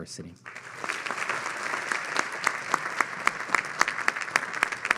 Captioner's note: audience clapping